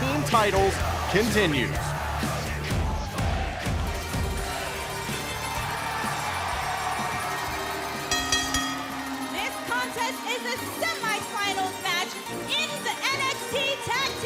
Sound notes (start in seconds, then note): 7.7 bell ringing